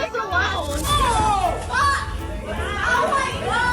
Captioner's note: shouting